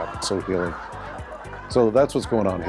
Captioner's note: audience laughing